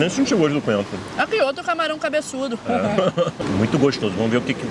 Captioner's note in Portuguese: risos